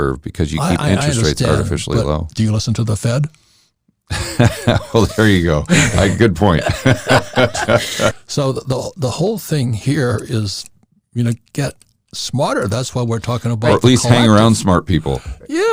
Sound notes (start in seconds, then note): 4.1 laughing